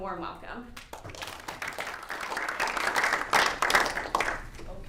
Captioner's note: applause